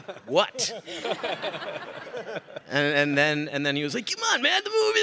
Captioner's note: all laughing